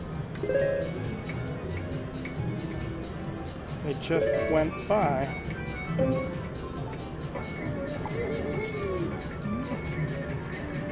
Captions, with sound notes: (machine beeps) It just went by,